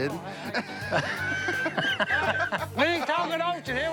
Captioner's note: laughter